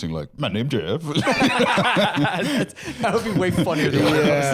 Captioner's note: laughs